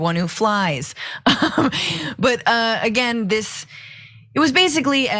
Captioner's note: laugh